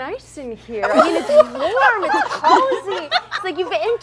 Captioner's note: mad laughter from everyone else